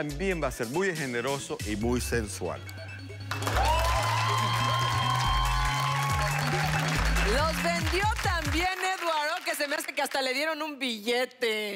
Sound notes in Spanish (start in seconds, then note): 2.2 Exclamaciones; 3.2 Aplausos